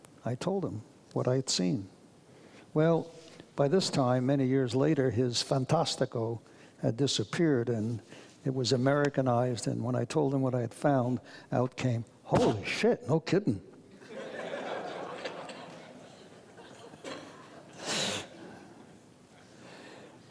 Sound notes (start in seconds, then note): 5.4 speaks foreign language; 14.0 audience laughs